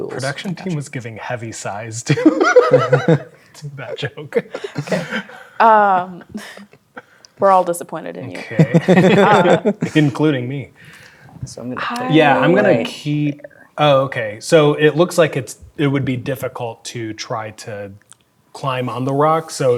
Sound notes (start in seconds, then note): 2.0 laughing; 8.3 others chuckling